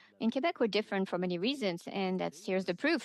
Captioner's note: speaking French